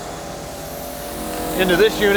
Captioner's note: machine whirring